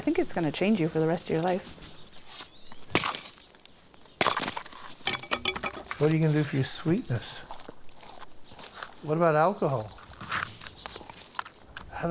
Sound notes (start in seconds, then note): 2.7 clattering